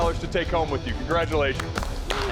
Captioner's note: applause